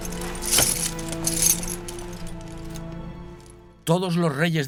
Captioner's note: armor rattling